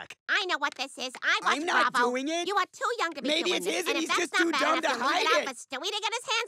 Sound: arguing

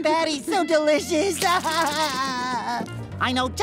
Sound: crying

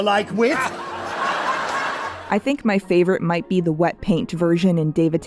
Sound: laughter

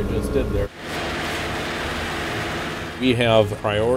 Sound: snow thrower operating

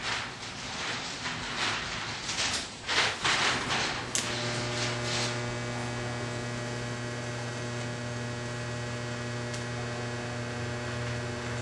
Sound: welding

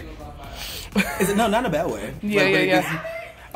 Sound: chuckles

